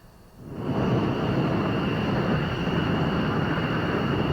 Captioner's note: jet engines roaring